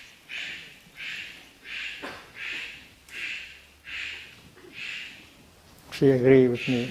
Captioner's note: A bird is cawing in the background